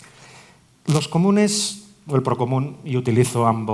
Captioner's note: Spanish